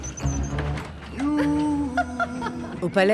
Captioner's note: lift rattling; people laughing; people chattering